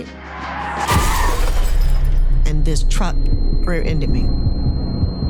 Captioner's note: car crashes; ears ringing